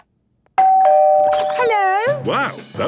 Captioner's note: doorbell ringing